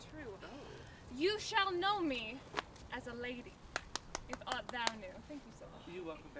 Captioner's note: Merry applauds